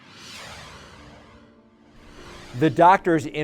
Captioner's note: logo swooshes